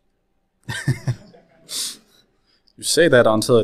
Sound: laughs

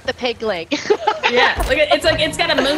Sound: laugh

